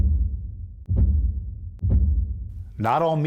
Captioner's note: banging sounds